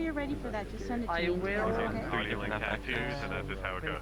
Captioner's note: users conversing